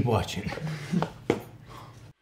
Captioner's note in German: lacht